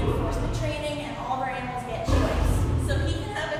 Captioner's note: lion growl